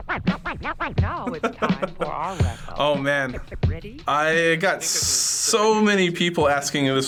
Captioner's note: turntable scratching; chuckles